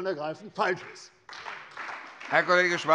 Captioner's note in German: Beifall bei der CDU